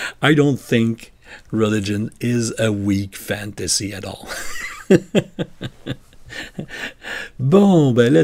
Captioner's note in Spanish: Risas